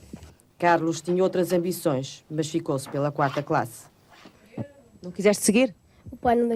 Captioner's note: speaking portugese